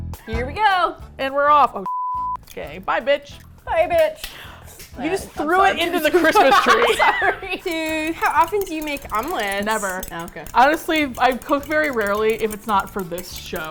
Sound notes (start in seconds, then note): 0.1 upbeat music; 4.2 gasps; 5.8 laughing